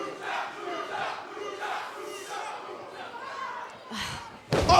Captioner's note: fans chanting